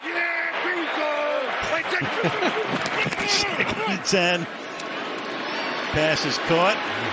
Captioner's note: laughter